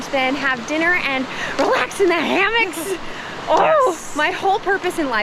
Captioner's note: giggles